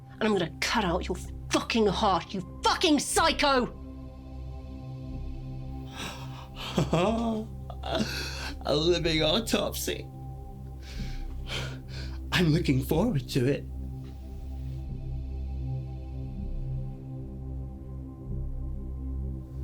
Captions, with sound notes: and I'm gonna cut out your fucking heart, you fucking psycho! - (chuckles) A living autopsy. I'm looking forward to it.